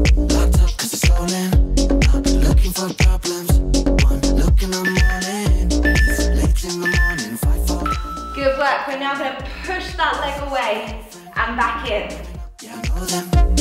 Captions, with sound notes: (beeping sound) Good work, we're now going to push the leg away and back in.